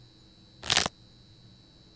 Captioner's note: neck cracking